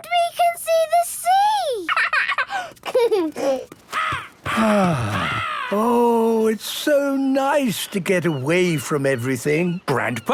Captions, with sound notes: - And we can see the sea! (giggling) (gull squawking) (sighing) - Oh, it's so nice to get away from everything.